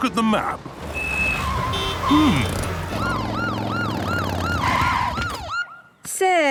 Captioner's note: honking, sirens